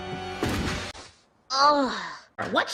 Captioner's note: thud